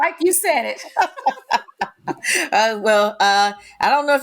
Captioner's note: both laughing